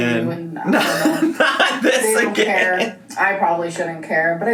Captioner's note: laughs